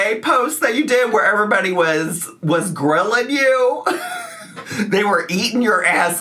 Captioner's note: laughs